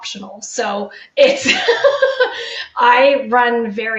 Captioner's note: laughing